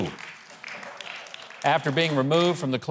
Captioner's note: audience lightly clap